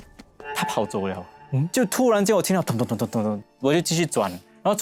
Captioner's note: footsteps